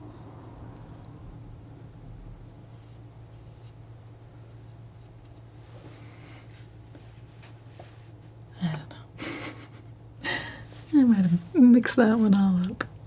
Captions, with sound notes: (laughing) I might have mixed that one all up